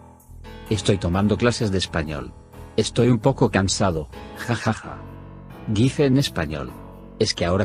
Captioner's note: says in Spanish